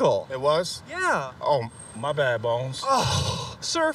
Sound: groans

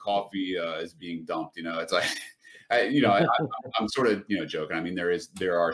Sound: laughter

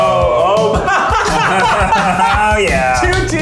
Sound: laughs

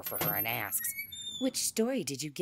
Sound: door opens and closes

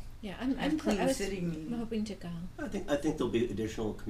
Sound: voiceover

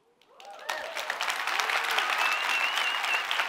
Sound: applause

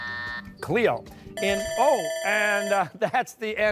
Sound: bell dings

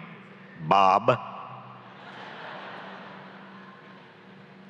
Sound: laughs

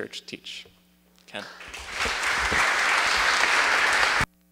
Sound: applause

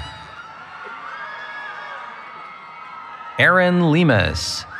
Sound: cheering

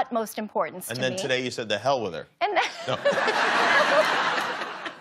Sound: laughs

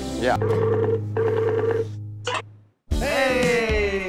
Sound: video chat ringing

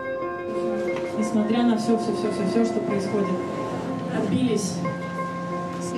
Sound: gentle music; speaking in foreign language

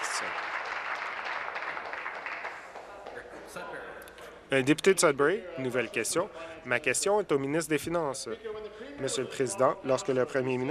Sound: applause

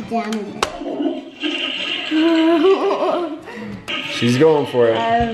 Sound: toilet flushing

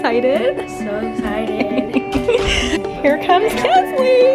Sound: laughing

